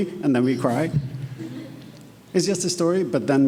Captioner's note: attendees laughing